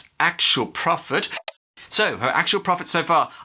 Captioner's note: click